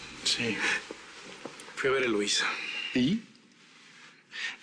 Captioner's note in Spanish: Ríe